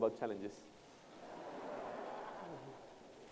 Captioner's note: laughter